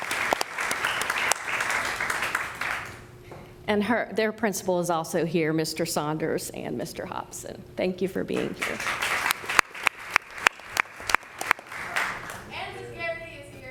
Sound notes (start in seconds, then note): 0.0 applause; 11.8 applause